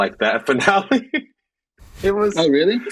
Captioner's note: Echo laughing